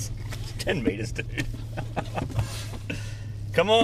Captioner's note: laughing